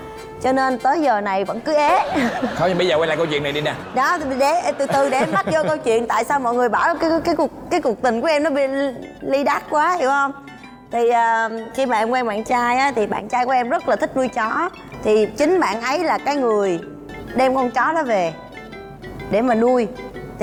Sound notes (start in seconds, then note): 1.7 laughing